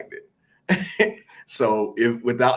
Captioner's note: laughs